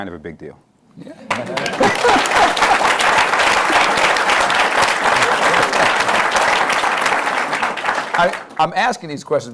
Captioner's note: applause